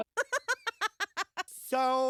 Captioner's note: laughter